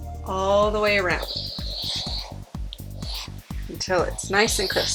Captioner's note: steam hissing